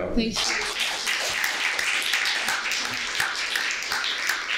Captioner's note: applause